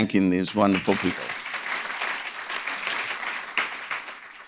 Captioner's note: audience clapping